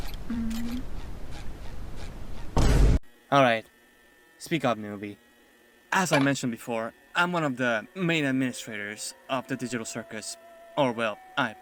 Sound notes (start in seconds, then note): 2.6 vineboom.mp3